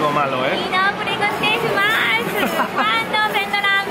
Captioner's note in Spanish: risas